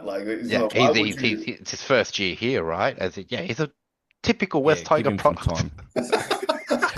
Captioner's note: laughs